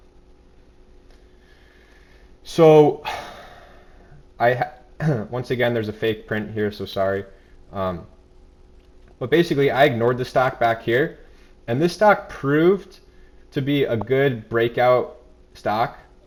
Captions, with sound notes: So... (exhales) (clears throat) Once again, there's a fake print here, so sorry, but basically I ignored the stock back here and this stock proved to be a good breakout stock